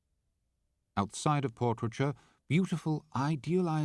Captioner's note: voiceover